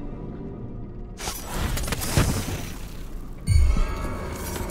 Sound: tense ambient music; clockwork clangs

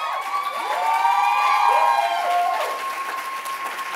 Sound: cheers

